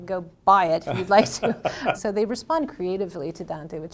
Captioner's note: laughs